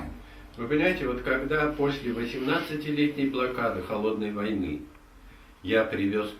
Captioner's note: speaks in the Russian language